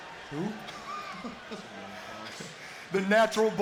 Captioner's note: chuckles